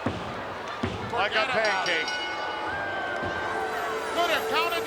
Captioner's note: bell rings